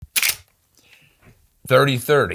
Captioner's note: gun shutters